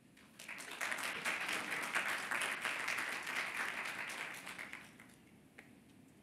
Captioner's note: applause